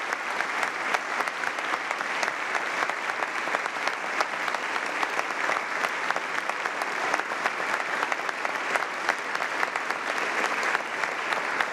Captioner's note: applause